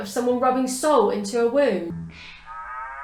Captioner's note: cow moos